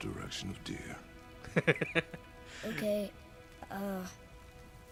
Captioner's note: laughs